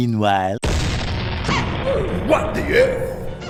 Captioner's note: cannon fire, oof sound effect